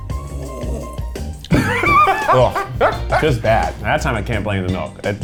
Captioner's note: laughing